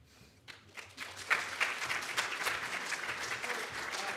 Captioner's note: audience clapping